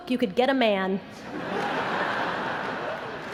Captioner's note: laughter